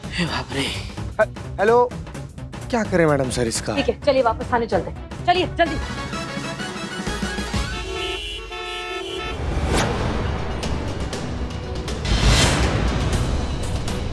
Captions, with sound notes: - Oh god. - Hello? - What do I do with him, maddam sir? - Let's go back to the station. Come on. [traffic noises] [dramatic music]